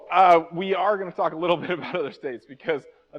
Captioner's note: chuckles